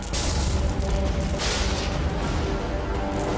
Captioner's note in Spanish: Estruendo